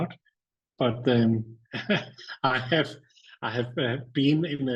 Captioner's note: chuckles